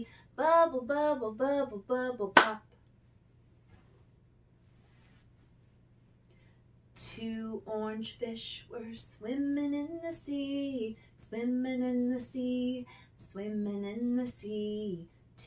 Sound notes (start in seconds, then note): none